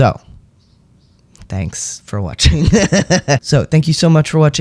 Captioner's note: laugh